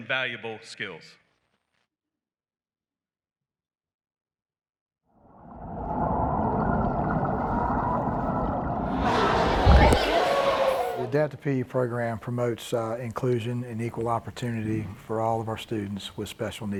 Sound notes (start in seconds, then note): 5.3 underwater noises